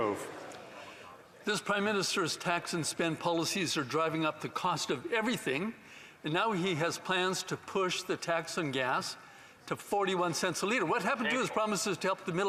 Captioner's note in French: voix de l'interprète